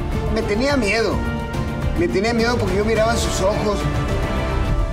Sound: speaking Spanish

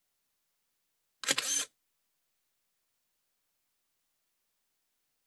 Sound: camera shutter

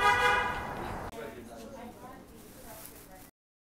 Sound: car honks; customers muttering

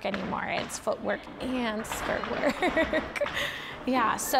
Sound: laughs

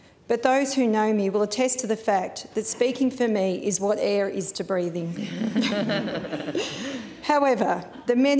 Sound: laughter

